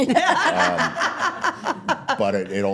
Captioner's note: laughing